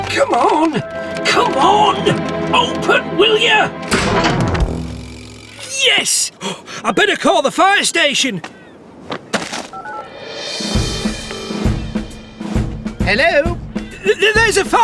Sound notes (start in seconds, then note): 4.5 gasp!; 11.4 ringing